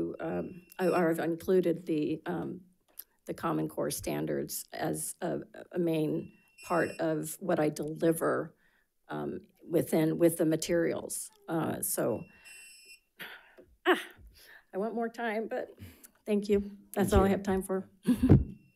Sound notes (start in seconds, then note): 12.2 timer sounding